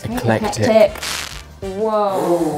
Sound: electricity crackles

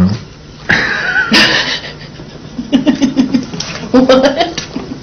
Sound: laughs

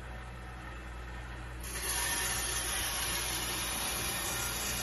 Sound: saw whirring

